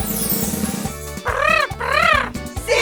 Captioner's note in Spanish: Sonido de redoblante; Sonido de loro